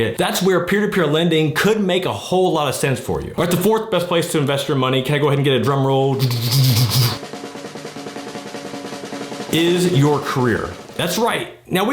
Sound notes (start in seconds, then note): 6.2 imitating drum roll; 6.2 drum rolling